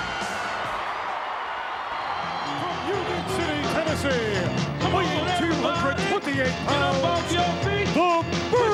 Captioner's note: applause